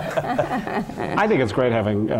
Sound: laugh

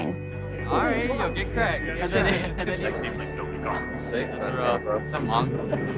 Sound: chatting

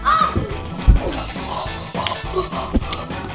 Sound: grunts

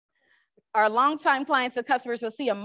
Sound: none

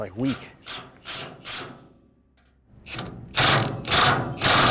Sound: drill buzzing

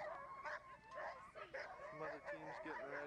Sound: dogs barking

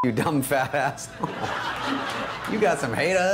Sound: laughter

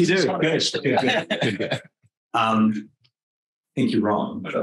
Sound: all laughing

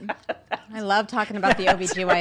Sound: laughing

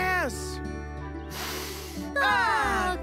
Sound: inhaling deeply

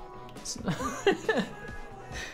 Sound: nervous laugh

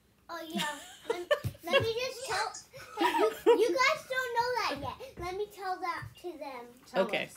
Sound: laughter

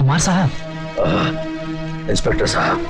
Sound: groaning

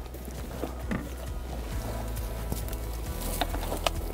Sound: branches rustling

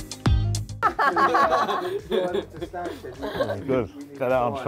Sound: dance music; laughing

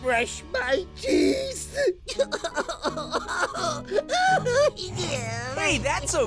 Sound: sobbing

